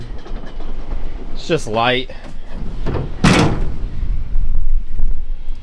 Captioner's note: door Slamming